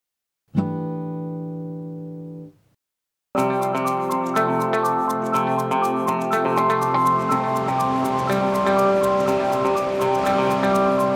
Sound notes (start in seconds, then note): 0.6 chime sounds; 3.4 upbeat music